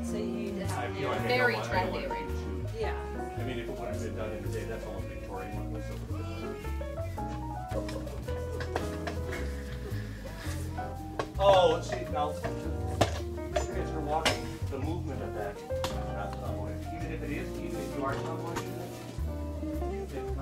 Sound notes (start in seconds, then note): 4.6 faintly speaking; 7.8 jazzy music; 12.2 faintly speaking; 16.9 faintly speaking